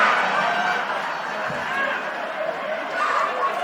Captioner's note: applause